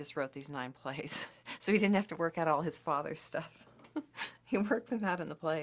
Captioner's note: laughter